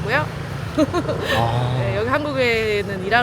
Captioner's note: laughs